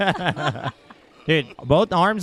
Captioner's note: man laughs